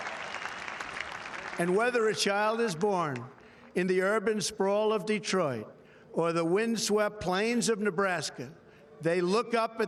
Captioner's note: applause